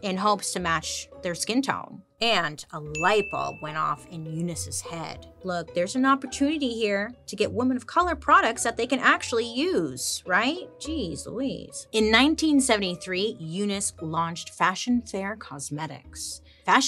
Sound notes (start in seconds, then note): 2.9 light bulb dings